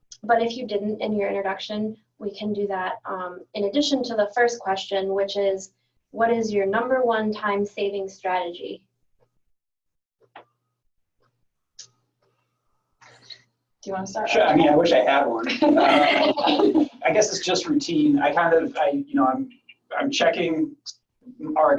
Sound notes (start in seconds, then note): 15.3 laughing